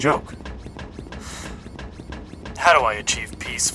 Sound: sigh

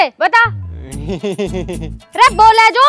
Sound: laughs

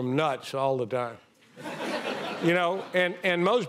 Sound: audience laughing

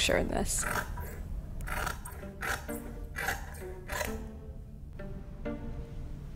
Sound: scissors snip; curious music

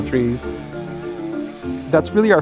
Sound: chainsaw buzzing

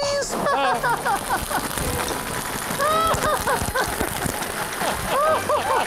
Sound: laughter

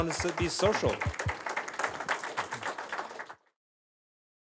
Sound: applause

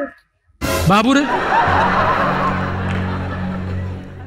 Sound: laughter

